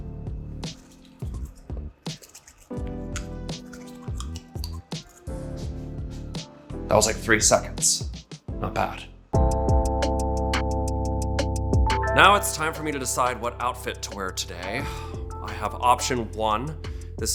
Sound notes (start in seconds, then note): 0.6 brushing teeth furiously; 9.3 relaxing rhythmic music